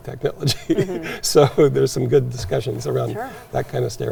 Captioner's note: chuckles